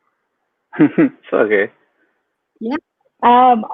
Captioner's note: laughs